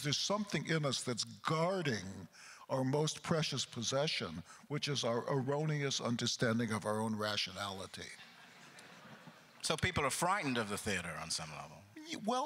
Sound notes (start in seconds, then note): 8.2 crowd chuckles